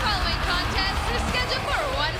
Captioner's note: bell ringing